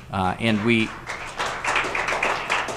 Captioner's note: applause